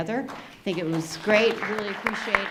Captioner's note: audience applauding